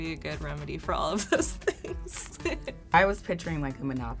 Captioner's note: laughs